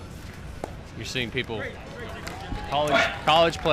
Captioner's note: crowd cheers